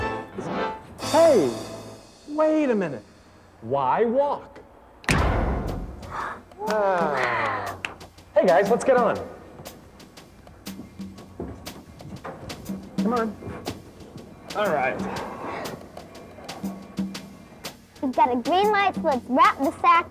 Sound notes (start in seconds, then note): 5.0 short bang; 9.4 soft airy music